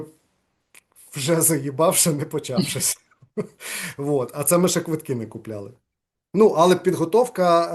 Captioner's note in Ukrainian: сміється